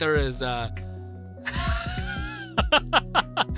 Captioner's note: laughs